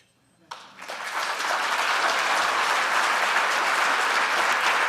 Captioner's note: applause